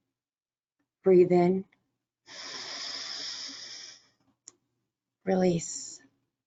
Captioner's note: breathing heavily